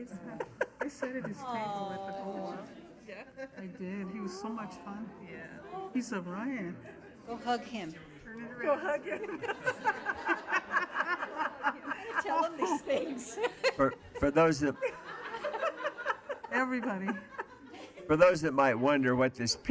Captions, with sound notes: - How nice. Awe. - I did, he was so much fun. Go hug him. - Go hug him. (women laughing) - For those that might wonder what this picture is of,